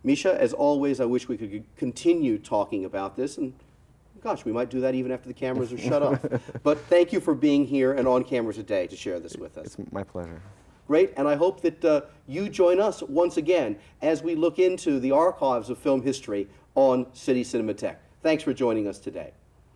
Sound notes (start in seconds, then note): 5.5 Misha laughs